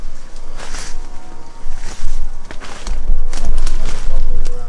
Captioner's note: branches snapping